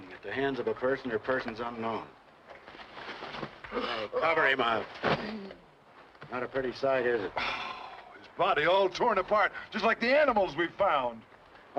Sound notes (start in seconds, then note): 3.9 gasping softly